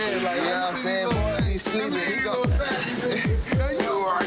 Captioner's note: people speaking indistinct; person laughs